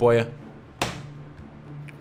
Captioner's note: bangs table